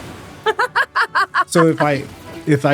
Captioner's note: laughs